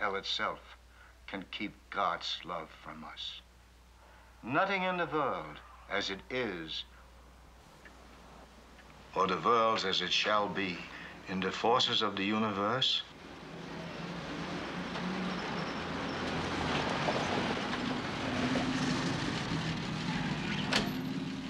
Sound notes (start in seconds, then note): 11.9 engine racing; 19.1 loud rumbling